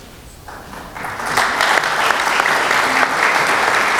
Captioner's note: applause